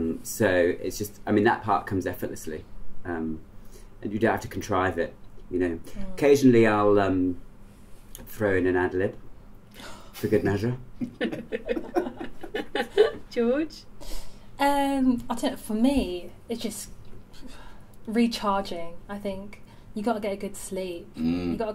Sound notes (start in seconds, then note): 11.0 laughter